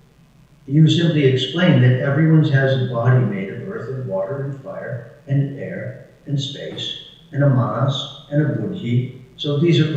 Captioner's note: non-English speech